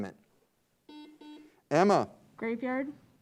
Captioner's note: buzzer beeps